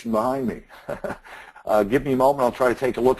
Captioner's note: laughs